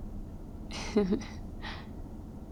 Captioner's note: laughs